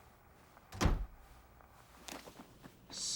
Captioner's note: door closes